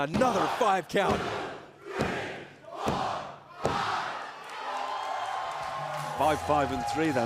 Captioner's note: crowd cheering